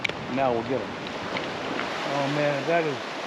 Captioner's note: water flowing